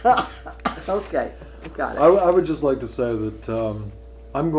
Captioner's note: laughter